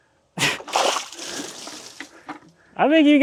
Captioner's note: water splashing